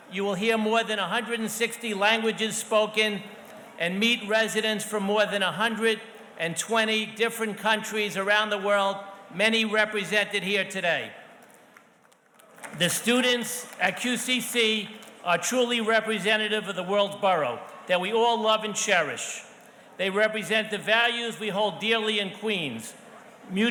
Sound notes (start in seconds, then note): 11.3 audience softly clapping